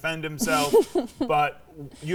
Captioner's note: laughing